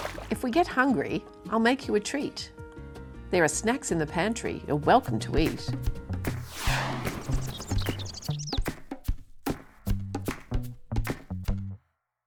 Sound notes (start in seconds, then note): 5.0 upbeat music; 6.4 birds chirping